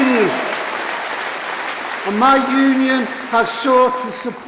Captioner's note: applause